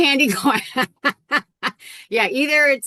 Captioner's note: laughs